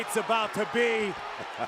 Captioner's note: laugh